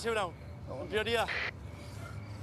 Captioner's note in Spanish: estática